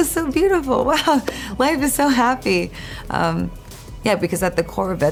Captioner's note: chuckles